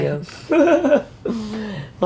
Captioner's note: laugh